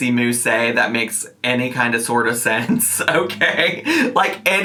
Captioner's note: chuckling